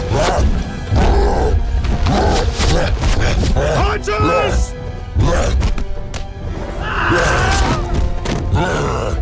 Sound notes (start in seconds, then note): 6.8 screams